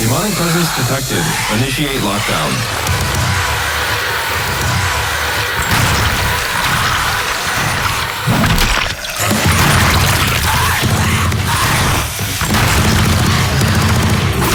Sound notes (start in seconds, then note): 0.0 demon roaring; 0.0 electronic warbling; 4.9 demons roaring; 6.4 gunshots booming